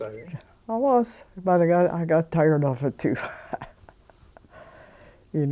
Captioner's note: chuckling